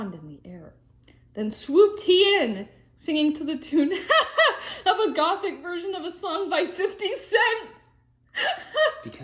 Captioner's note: laughs